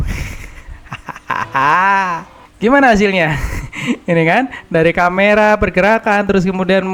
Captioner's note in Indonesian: tertawa